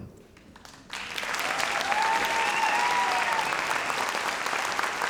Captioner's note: audience applauds